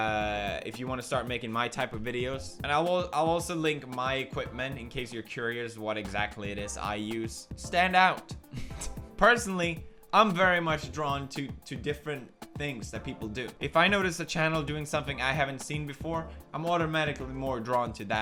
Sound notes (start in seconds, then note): 8.5 laughs